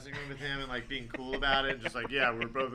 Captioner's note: laughter